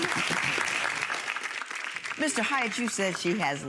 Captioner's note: audience clapping